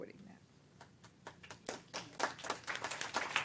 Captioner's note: applause